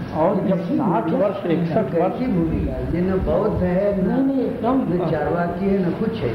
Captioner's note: discussion in Hindi